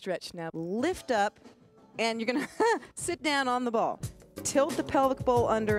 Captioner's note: laughs